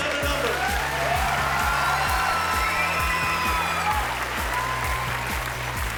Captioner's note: cheering and applause